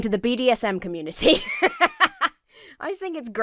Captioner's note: laughs